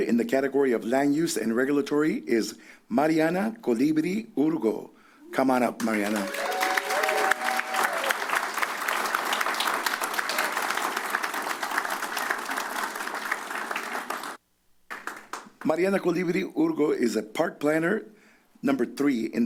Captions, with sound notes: in the category of Land Use and Regulatory is Mariana Colibri-Urgo. Come on up, Mariana. [cheers] [applause] Mariana Colibri-Urgo is a Park Planner III